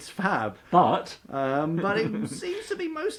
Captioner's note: laughs